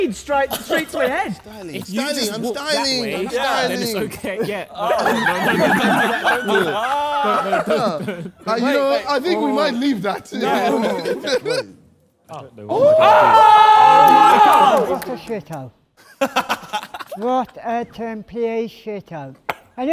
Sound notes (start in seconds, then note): 5.0 Sidemen laughing; 12.6 Sidemen cheering